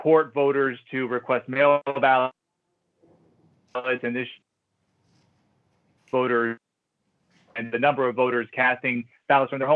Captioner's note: audio gap